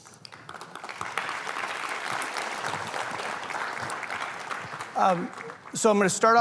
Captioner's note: applause